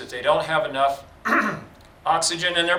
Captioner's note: clears throat